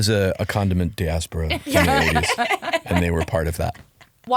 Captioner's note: laughing